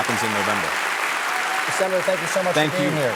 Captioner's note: applause